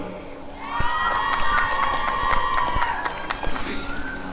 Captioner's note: applause and cheering